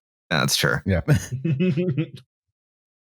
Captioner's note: chuckles